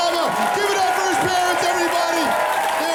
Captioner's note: crowd screaming